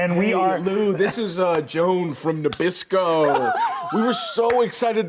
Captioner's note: laughing